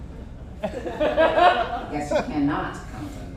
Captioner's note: audience chuckles